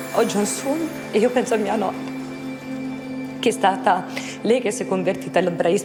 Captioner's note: speaks in foreign language